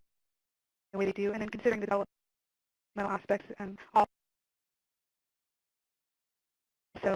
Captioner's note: audio cuts out